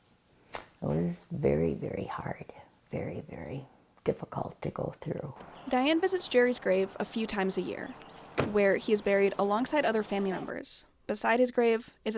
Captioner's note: car door closing